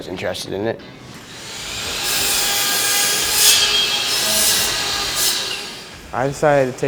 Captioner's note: nats of a saw cutting wood